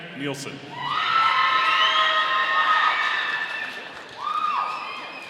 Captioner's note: audience cheering